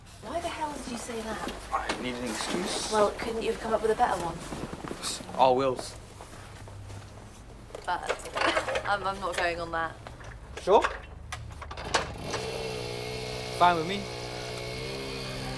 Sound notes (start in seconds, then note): 12.0 engine rumbles